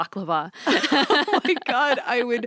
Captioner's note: laughs